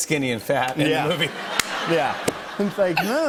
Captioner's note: laughter